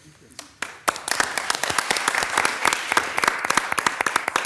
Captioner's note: all applauding